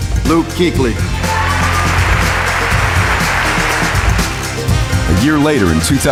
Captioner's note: applause